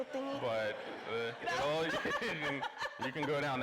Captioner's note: everyone laughing